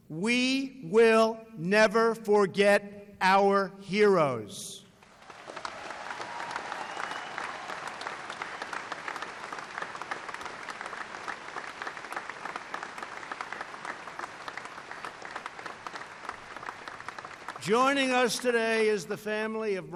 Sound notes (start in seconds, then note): 5.0 applause